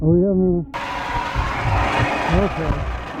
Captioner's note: screeching, winds blowing